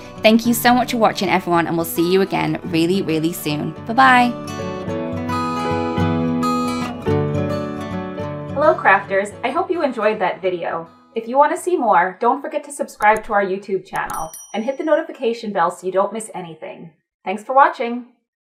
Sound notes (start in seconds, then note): 4.6 gentle music; 13.9 bell ringing